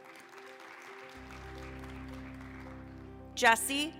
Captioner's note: applause